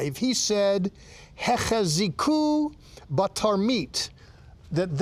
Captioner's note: speaking in Hebrew